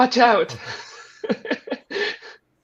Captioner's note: laughter